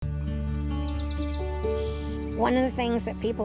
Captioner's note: bird chirping